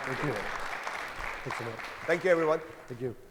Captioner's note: audience applauds